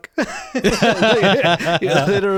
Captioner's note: laughing